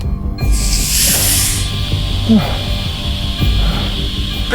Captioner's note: air hissing